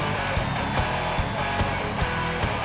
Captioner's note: cheers and applause